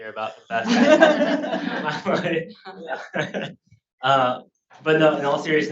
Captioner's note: speaker drowned out by laughter